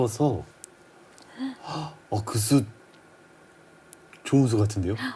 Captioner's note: gasp